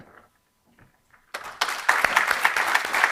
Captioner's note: applause